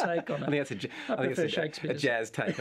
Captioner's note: chuckles